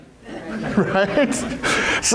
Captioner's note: crowd laughs